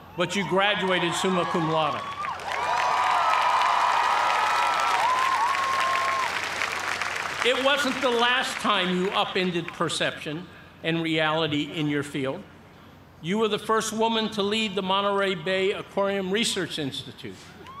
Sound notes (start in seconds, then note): 2.5 cheering and applause